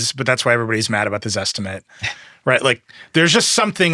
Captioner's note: laughing